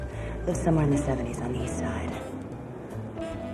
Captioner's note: pat